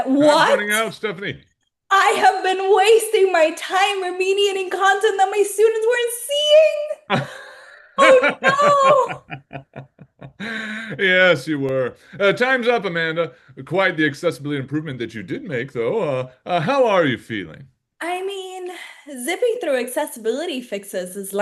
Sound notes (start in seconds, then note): 7.9 laughing